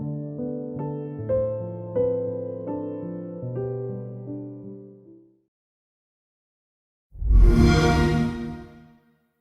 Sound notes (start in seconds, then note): 7.2 xbox sound